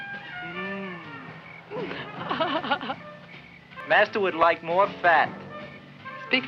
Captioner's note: laughs